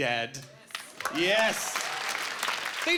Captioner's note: clapping